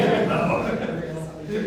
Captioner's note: laughter